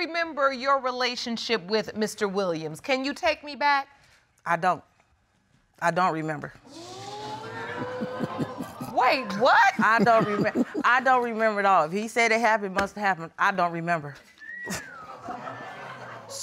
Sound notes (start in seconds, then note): 6.7 audience exclaiming; 7.0 chuckling; 14.3 woman whistles lightly; 14.7 audience chuckles